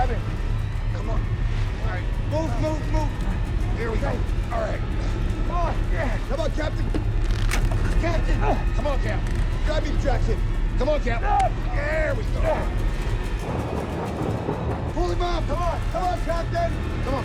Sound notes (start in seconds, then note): 6.9 wood snaps; 11.4 Captain Malone yells; 13.4 engine whirring; 13.4 tense music